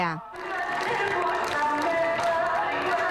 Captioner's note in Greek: χειροκροτήματα και μουσική